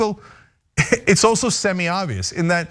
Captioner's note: laugh